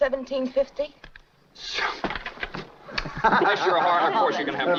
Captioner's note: laughing